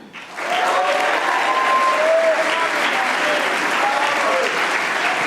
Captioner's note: audience applauding